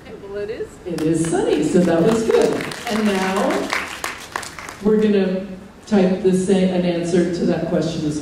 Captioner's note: applause